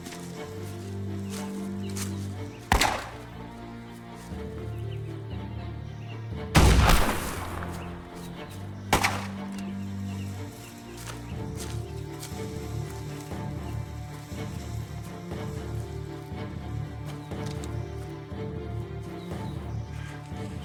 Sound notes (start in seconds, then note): 0.0 foliage rustling; 2.7 gun bangs; 3.2 suspenseful music; 4.9 curious music; 6.5 gun bangs; 12.3 suspenseful music